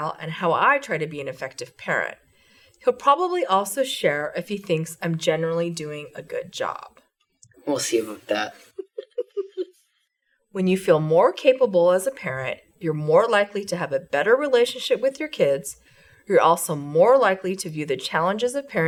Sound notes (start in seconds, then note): 8.5 giggles